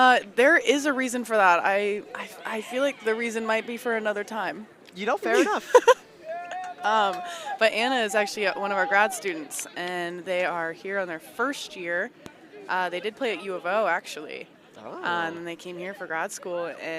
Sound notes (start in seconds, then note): 5.3 laughs